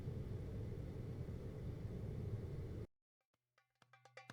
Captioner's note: air conditioning